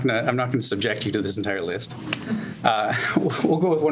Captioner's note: laughs